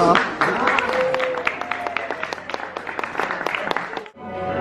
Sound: applause

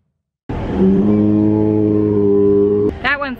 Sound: dino moan

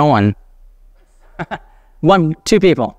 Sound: laughs

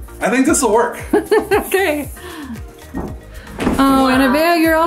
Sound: laughs

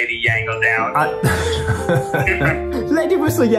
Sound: laughing

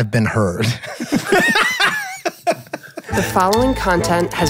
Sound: all laughing

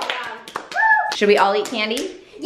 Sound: clapping

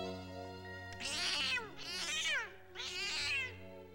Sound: cat screaming

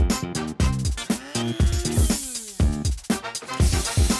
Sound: machine whirs; steam hisses

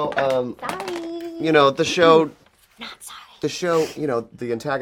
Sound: whispers

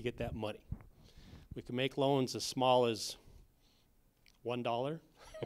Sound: laughter

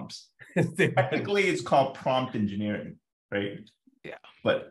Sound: laughs

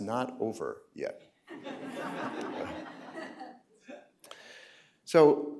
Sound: laughter

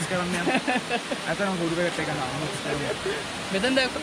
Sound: laugh

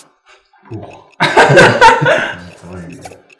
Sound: laughter

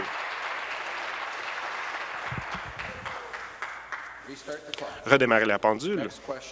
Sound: applause

